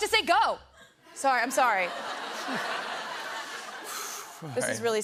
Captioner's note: laughter